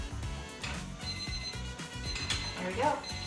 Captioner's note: timer beeping